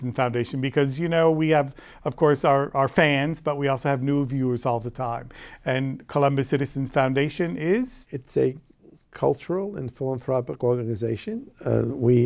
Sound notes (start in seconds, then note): none